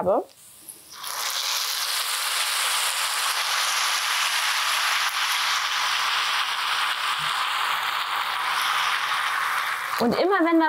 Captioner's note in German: Geiles Zischgeräusch